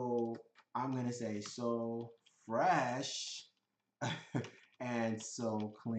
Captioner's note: laughs